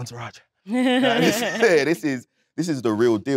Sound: Letitia chuckles

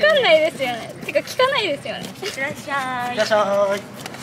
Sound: laughs; laughs

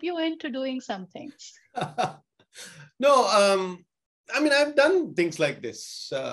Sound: laughs

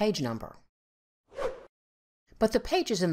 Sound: swooshing sound effect

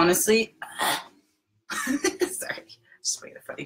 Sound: grunts

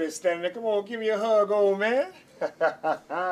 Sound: chuckles

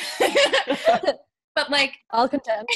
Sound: laughing

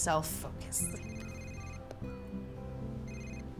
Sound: phone ringing

